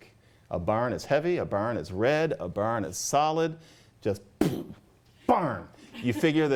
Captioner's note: bfff!